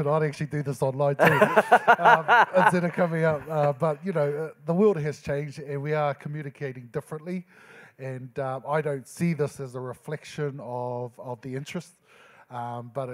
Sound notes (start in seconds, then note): 1.2 moderator laughing